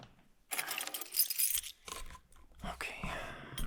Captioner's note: keys clang